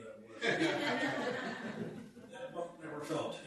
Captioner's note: laughter